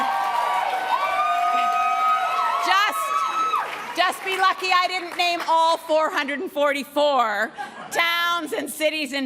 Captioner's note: applause and cheering